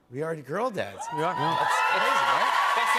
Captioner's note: cheers and applause